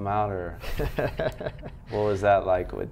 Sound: laughs

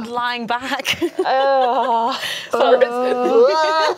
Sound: groans

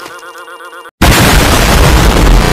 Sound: bOoM

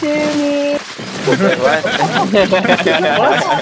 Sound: laughing; laughter

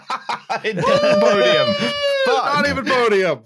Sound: laughs

